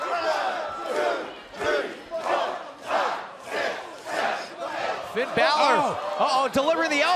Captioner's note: fans chanting